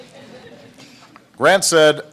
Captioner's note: laughter